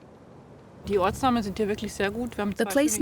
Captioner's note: speaking German